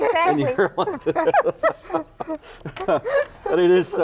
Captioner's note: laughing